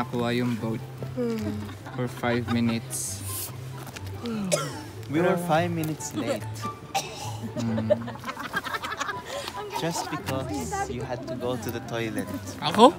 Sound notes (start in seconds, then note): 6.9 coughing at the back